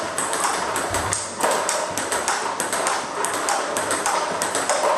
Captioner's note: ball ping pong hitting continues